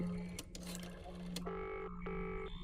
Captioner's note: dial clicking, line trilling